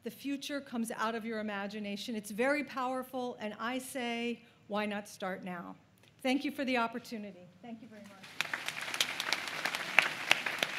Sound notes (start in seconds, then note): 6.7 applause